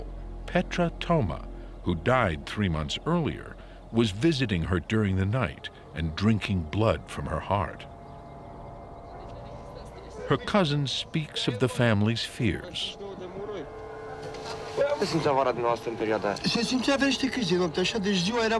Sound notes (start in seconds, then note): 14.4 man speaks Romanian; 16.6 speaking Romanian